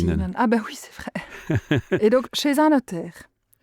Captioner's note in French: Rires